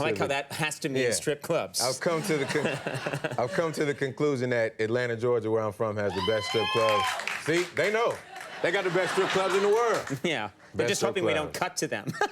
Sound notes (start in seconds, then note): 6.1 audience members cheer; 8.3 audience laughs; 12.1 laughs